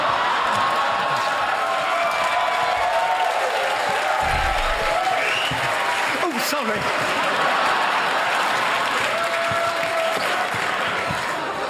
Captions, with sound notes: He's out there. I promise. (CHEERING AND LAUGHTER)